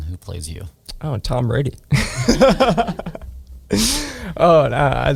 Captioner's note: laughs